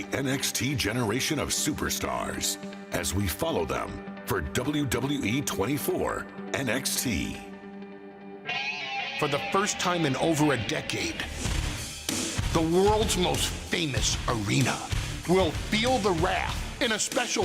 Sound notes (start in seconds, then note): none